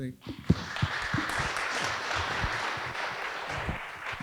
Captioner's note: audience applauding